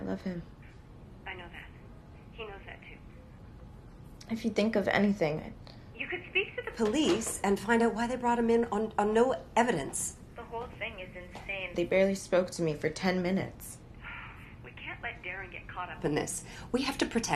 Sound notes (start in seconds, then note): 12.8 sighing